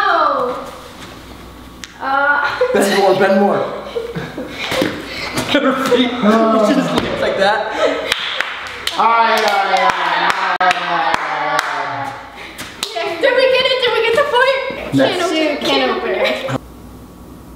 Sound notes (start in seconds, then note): 9.2 claps; 15.8 laughs